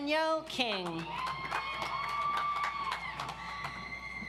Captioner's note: audience applauds